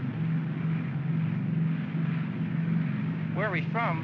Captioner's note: aircraft rumbles